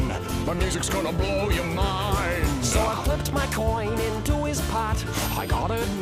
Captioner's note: coin tinkles